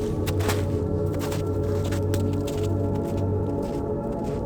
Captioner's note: feet thumping